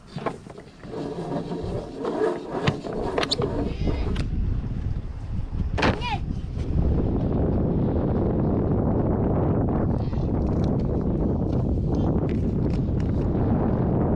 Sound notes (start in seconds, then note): 0.0 rope moving; 5.1 wind blowing